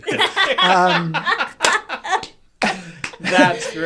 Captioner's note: laughing